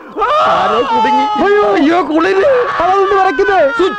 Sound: shiver

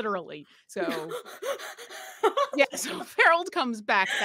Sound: laughs

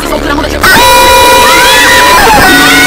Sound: intense Aesthetic Screaming

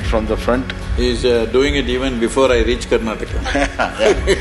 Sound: both Laugh

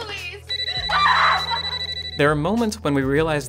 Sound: phone rings

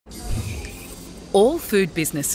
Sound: cafe soundscape

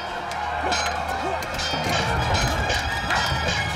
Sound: metal clanging

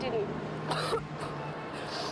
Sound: coughing

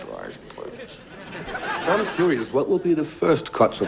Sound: laugh track

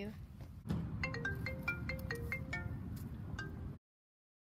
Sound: phone rings

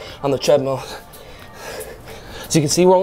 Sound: breathing deeply

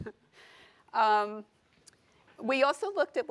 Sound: laughter

